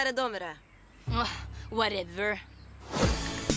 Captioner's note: sighs; dance music plays